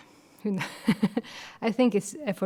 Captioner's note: chuckling